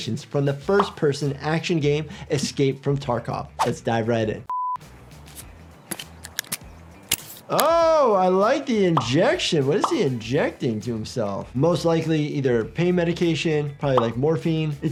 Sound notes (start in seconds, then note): 5.9 syringe clicking